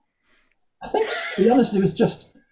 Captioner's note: laughs